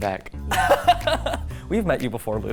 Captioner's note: laughing